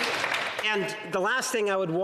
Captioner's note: applause